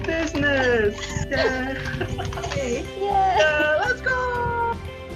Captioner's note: laughter